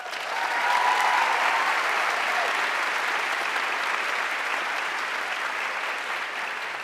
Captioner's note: audience cheering and applauding